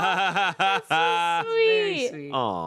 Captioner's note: laughs